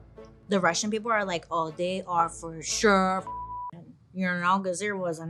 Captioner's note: beeps